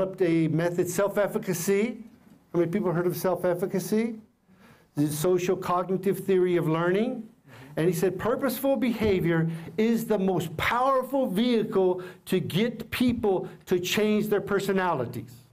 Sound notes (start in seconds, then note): none